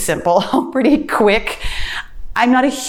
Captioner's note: laughs